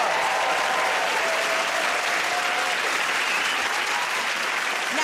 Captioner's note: cheers and applause